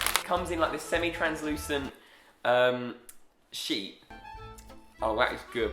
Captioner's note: none